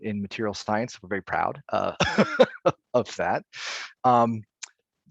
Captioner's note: laughing